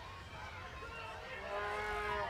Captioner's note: crowd chatter